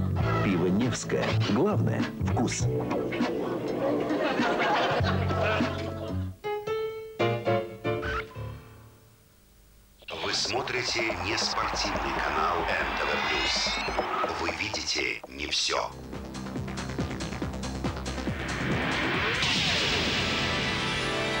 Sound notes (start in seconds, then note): 3.0 laugh